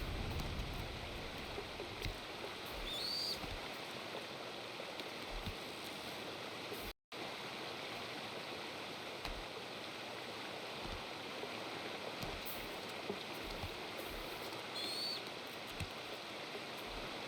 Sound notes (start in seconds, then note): none